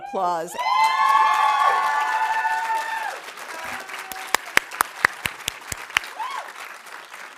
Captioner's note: audience cheering; audience applauding